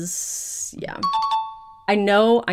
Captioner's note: question dings